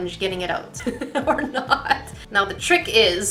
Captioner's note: laughing